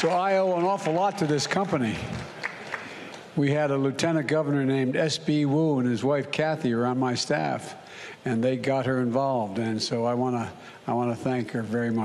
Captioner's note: applause